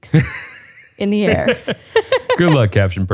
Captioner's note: both laugh